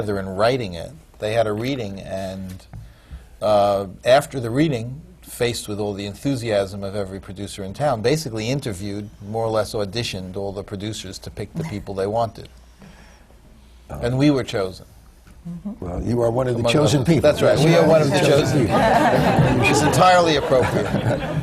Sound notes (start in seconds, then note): 15.1 laughs; 18.5 laughter